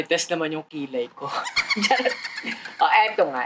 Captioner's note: laughs